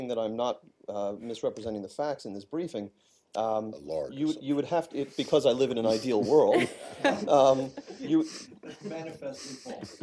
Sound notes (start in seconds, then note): 5.9 laughter